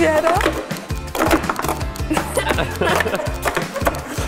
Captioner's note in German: Klappern der Becher, Lachen